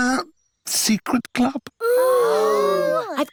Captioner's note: all gasp